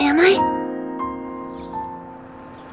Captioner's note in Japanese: ピピピッ